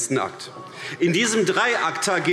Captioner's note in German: Beifall AfD